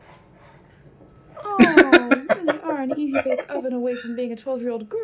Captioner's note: laughing